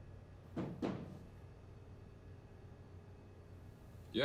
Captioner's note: faint knock